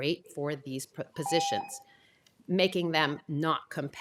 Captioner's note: tone